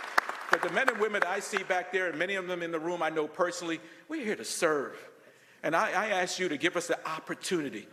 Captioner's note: applause